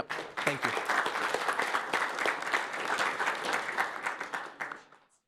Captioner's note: applause